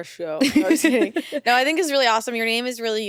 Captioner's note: chuckles